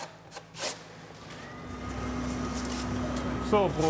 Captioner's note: machine noises